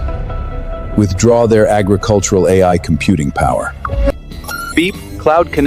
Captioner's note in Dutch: piep